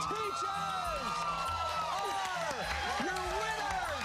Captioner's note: cheers and applause